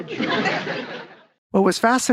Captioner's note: audience laughing